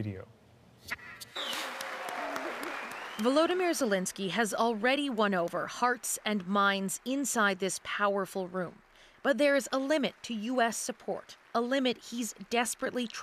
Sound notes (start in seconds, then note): 4.8 applause